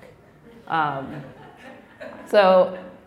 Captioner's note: laughing